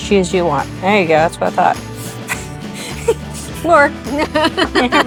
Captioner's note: laughing